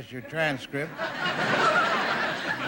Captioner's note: audience laughing